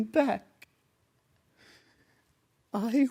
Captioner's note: soft breaths in